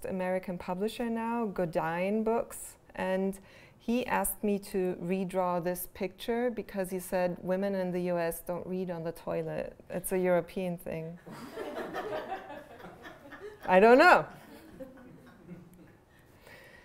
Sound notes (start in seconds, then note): 11.2 laughter